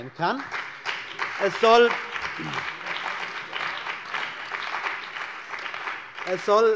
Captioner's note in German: Beifall bei der CDU und dem BÜNDNIS 90/DIE GRÜNEN